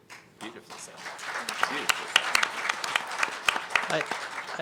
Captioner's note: applause